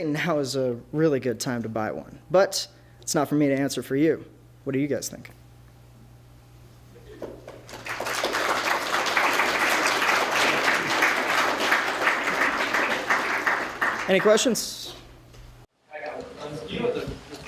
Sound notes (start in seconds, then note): 7.2 applause